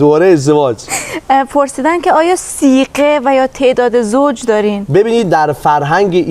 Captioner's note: sigheh